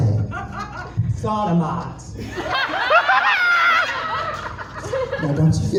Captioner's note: more hysterics